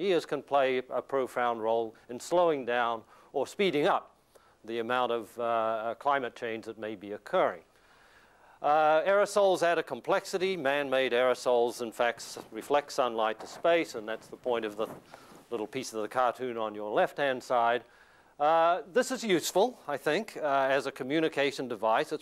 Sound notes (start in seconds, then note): none